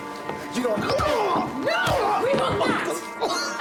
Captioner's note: groaning